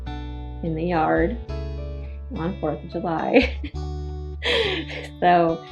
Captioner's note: laughs